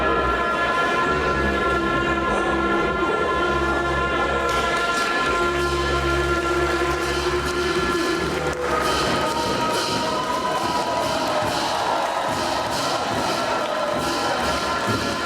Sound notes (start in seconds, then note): 5.4 cymbals crashing; 6.3 crowd cheering and clapping